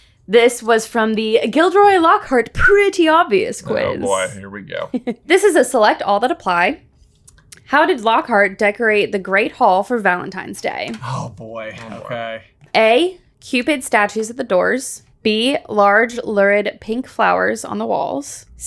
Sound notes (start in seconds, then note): 4.0 chuckles